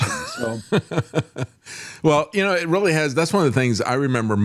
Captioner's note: laughing